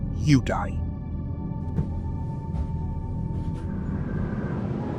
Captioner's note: footsteps walking down the stairs